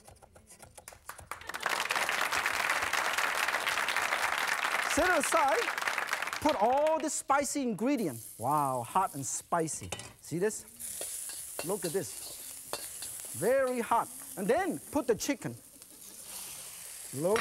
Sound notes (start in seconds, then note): 0.8 applause; 1.2 crowd; 16.8 laughs